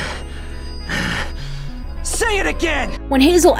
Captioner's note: grunts